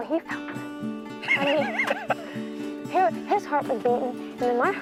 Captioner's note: laughing